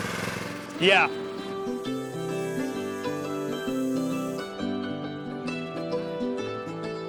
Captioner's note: blade whirring; appalachian folk music